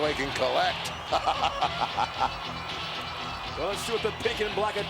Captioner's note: Ted laughs